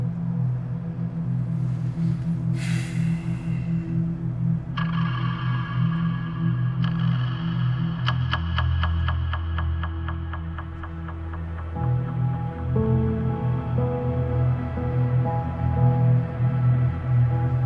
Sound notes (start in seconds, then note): 2.5 Ben sighs; 4.4 tense music